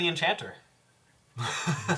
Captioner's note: all laugh